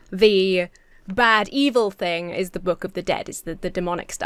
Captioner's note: none